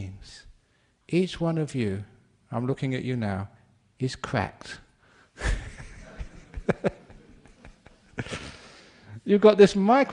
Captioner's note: laughter